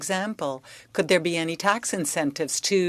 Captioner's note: speaking French